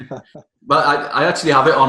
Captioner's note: chuckling